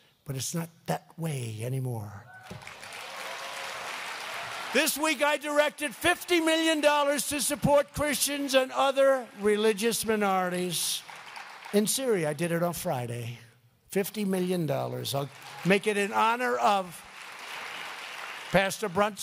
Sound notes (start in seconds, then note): 2.6 applause